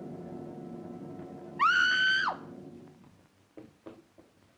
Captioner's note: screams